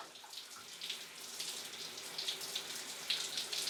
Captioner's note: shower running